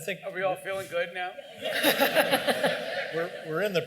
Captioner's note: laughter